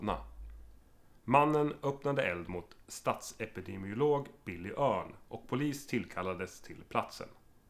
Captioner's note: radio voice